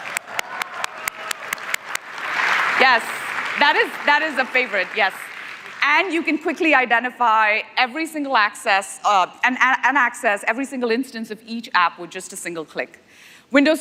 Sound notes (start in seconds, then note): 3.6 applause; 5.2 cheers